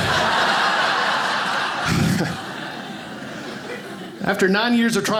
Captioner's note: audience laughing